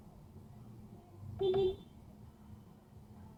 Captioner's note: beepbeep